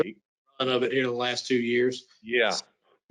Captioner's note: group chattering